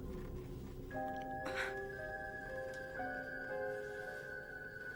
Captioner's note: Louise groaning